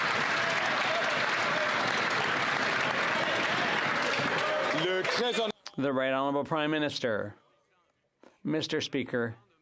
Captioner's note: some Applause